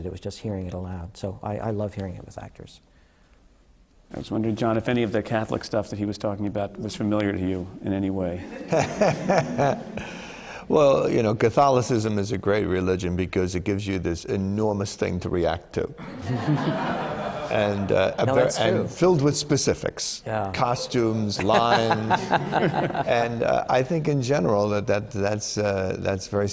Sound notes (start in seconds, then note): 8.4 laughter; 16.0 laughter; 21.3 laughter